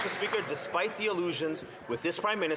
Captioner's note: some Applause